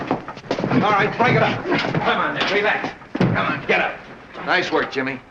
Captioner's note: scuffling